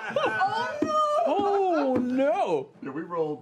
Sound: group laughter

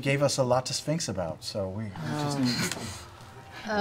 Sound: groaning

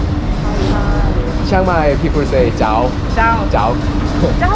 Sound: dialect

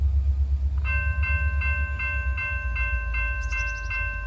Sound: railroad crossing bells ringing

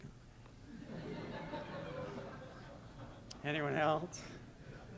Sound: laughter

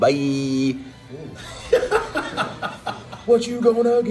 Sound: laugh

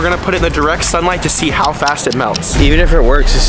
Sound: clock ticking

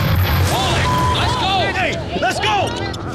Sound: beep

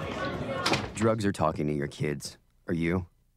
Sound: door closes

